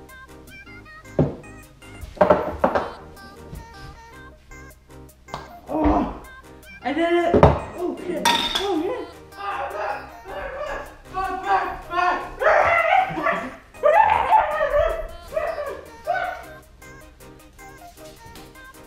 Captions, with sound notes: Ahhh! I did it! Oh shit! ... Oh shit!! *Barking and screaming* REEEEEEEEEEH!